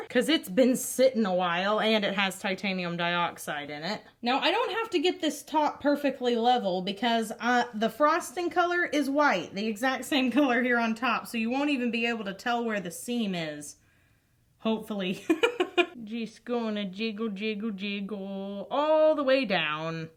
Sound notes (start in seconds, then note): 15.1 laughs